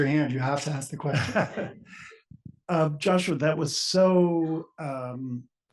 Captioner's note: laugh